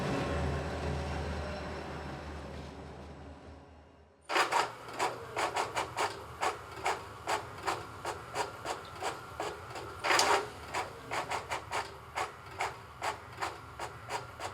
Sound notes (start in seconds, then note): 4.5 printer printing